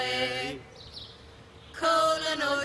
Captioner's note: chanting